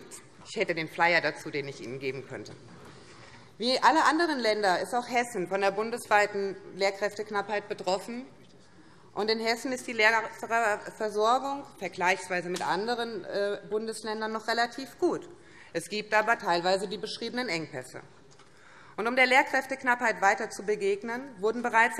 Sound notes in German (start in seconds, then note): none